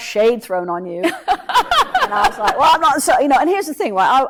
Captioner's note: laughs